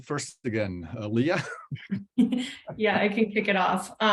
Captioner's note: laugh